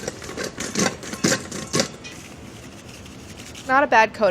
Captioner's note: chips clattering